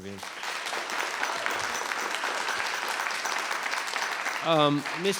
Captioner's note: audience applauds